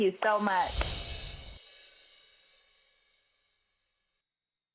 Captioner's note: bells twinkling